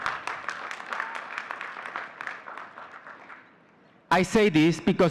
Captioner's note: audience cheering and clapping